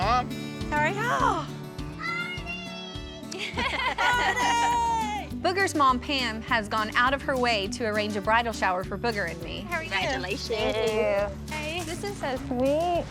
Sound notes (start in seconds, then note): 3.3 everyone laughs